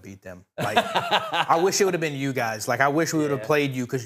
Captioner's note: laughing